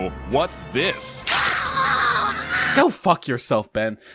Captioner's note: Ziggy gets stabbed and screams